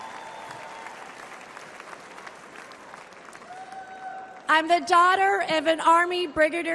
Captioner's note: crowd cheers